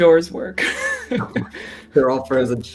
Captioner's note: laughter